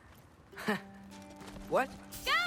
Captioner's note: laugh